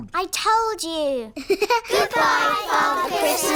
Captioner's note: laughs